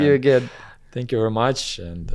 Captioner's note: laughs